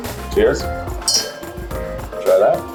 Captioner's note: glasses clink